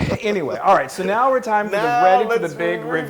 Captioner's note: laugh